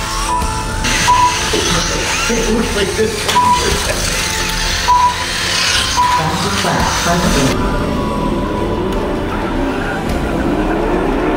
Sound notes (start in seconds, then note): 1.2 cars crashing and engines revving